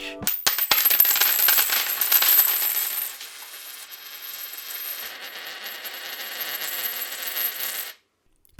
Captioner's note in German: Münzen klimpern